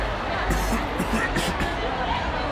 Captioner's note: coughs in new register